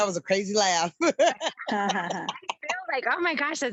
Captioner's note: laughing